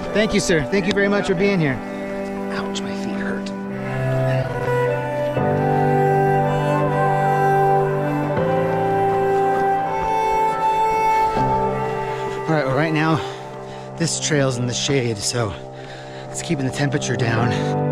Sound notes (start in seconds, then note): 5.7 footsteps crunching